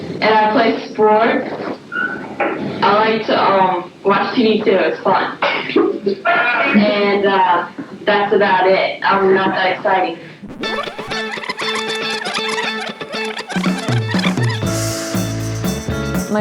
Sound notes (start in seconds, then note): 10.5 tape whirring; 14.4 upbeat music